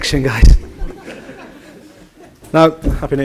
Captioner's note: general laughter